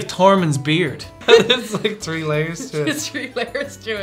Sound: laugh

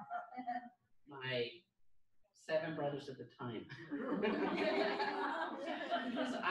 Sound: laughter

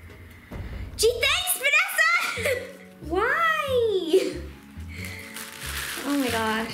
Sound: giggles

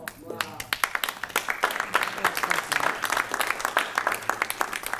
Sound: applause

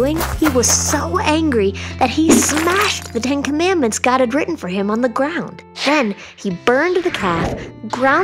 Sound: crash

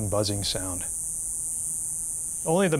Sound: cicadas buzzing

